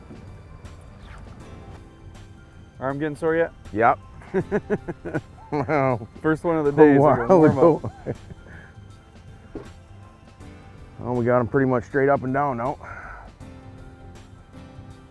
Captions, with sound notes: Arm getting sore yet? Yep. [laughter] First one of the day is a warm-up. We got them pretty much straight up and down now.